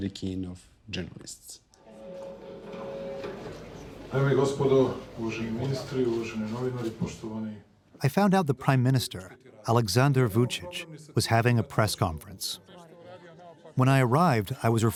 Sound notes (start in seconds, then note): 5.3 Vucic speaking Serbian